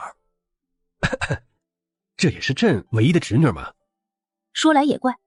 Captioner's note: cough cough